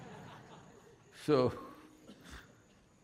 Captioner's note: laughter